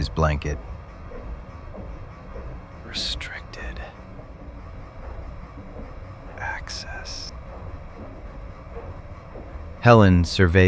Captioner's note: whispering